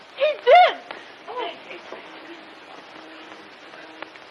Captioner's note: alarm